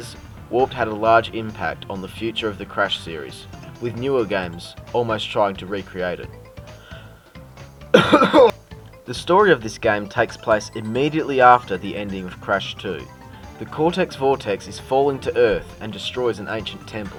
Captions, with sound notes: Warped had a large impact on the future of the Crash series with newer games almost trying to recreate it. (Cough) (Cough) The story of this game takes place immediately after the ending of Crash 2. The Cortex Vortex is falling to Earth and destroys an ancient temple.